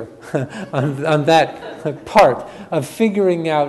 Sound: chuckles; audience chuckles

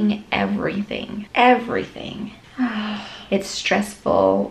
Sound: sighs

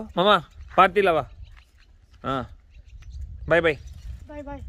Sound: speakinig in foreign language; speaking foreign language

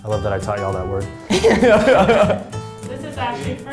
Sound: laughing

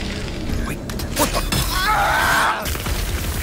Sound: screaming

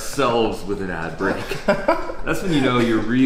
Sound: laughs

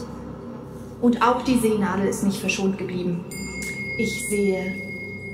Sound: bell chimes

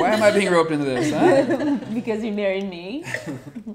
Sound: all chuckling

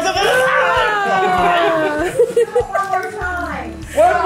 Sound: laughs

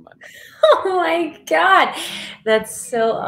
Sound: chuckles

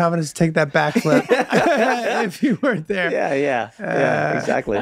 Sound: everyone laughs

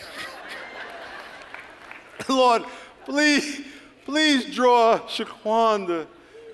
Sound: laughter

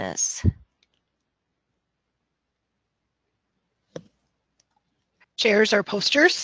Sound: silence

